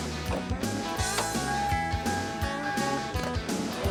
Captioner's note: car dinging; upbeat music